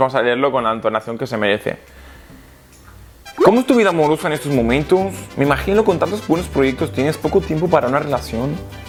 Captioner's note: repeats the question with Mexican accent